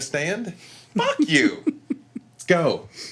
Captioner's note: laughing